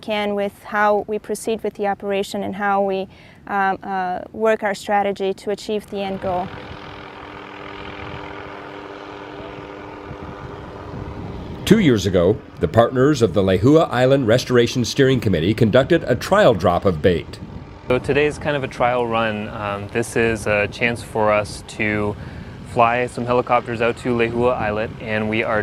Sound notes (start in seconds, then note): 6.6 helicopters buzzing